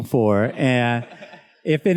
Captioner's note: students laughs